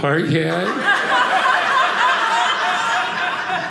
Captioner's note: audience laughing